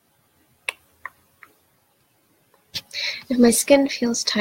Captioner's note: clicks tongue